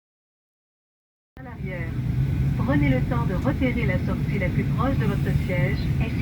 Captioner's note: announcement in French